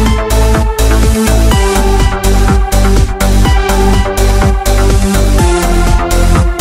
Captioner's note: booting